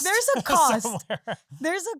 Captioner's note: laughs